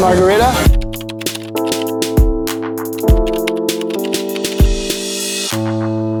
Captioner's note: keyboard clicking; moderate music